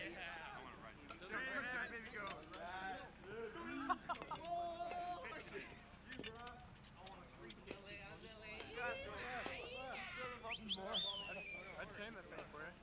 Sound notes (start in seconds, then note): 10.4 whistling; 11.9 chatter